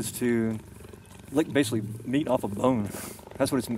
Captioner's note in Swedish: phust